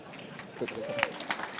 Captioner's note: applause